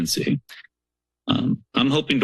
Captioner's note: pause